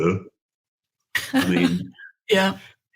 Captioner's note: chuckles